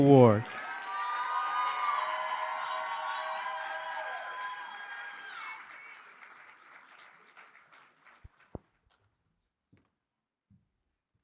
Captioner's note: applause